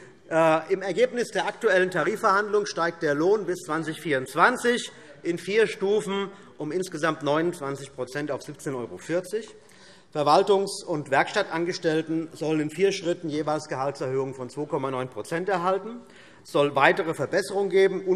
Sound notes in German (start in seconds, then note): none